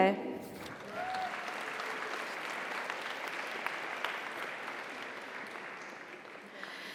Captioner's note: audience applauds; audience cheers